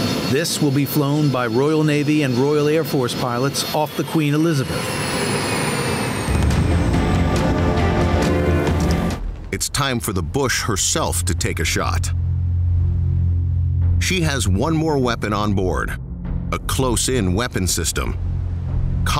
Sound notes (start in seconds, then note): 4.7 airplane whizzing; 6.3 dramatic music; 12.3 intense music